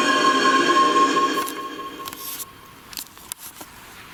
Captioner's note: portal screeching